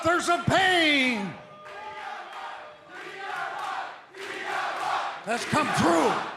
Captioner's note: crowd cheering